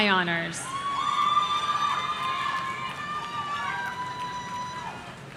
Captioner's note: audience cheering